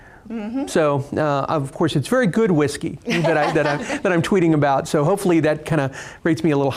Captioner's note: all laughing